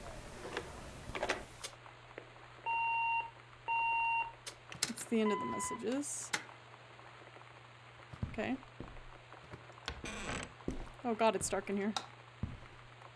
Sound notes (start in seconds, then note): 0.2 receiver Hangs Up, Tape Stops with a Click, Messaging Machine Beeps Twice; 5.2 machine Beeps, then Clicks Again